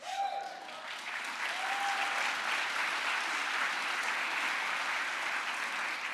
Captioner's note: crowd applause